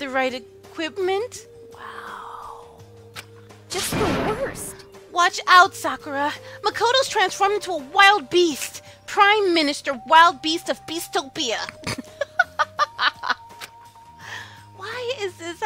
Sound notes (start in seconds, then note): 2.2 whispers; 11.8 laughs